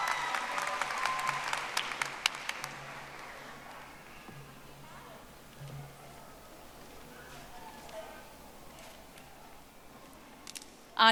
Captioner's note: audience applauding